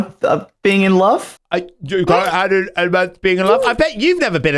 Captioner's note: mocking voice